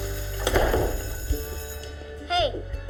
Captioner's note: bell rings